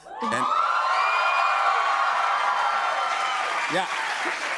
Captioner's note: cheers and applause